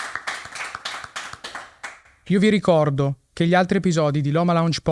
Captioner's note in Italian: Applauso